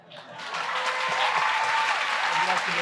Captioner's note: applause